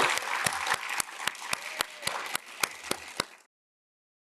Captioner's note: audience claps